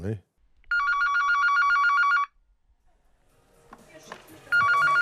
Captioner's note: telephone ringing